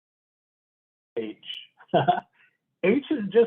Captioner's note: chuckles